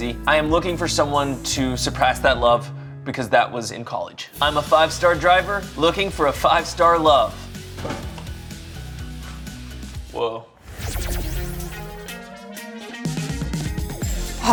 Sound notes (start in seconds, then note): 7.6 exciting rhythmic music; 9.6 scoffing; 10.6 exciting rhythmic music